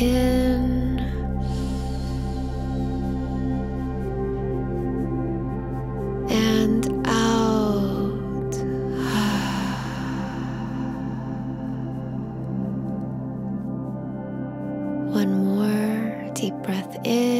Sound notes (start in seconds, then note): 0.2 gentle upbeat music; 8.0 sighs